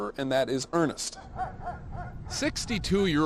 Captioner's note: dog barking in background